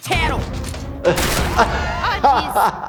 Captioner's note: ambulance thuds; laughing